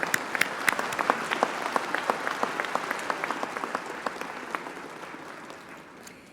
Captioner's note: applause